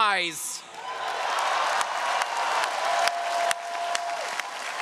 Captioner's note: audience cheering